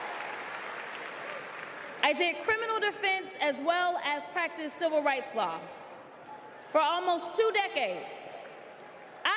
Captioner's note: applause